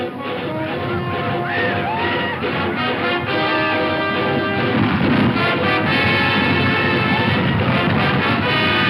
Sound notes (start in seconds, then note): 0.0 hooves pound; 0.6 Indians yell; 5.7 dramatic music